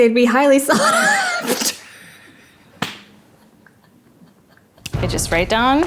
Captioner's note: laughing